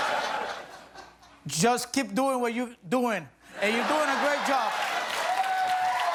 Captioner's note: laughter